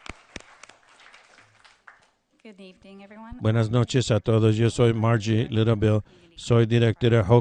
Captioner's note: applause